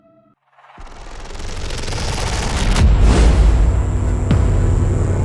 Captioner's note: impact woosh